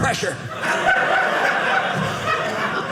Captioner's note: audience laughing